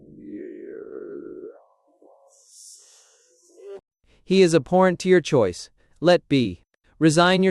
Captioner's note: to Christian, in a low voice